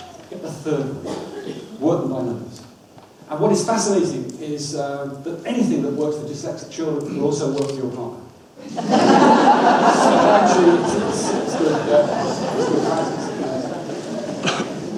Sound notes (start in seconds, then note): 8.6 audience laughs